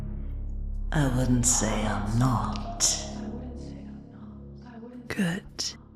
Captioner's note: echoing